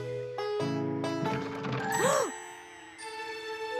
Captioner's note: gasps